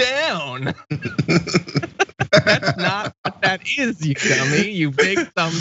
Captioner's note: laugh